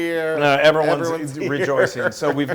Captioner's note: laugh